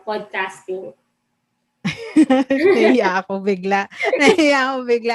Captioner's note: laughs